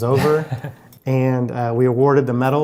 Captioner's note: laughs